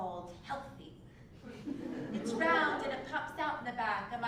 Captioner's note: laugh